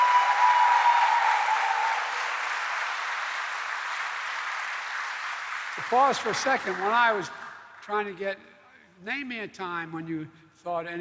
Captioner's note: cheers